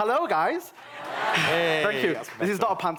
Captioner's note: laughter